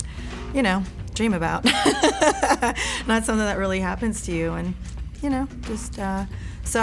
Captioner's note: laugh